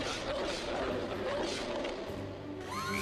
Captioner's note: growls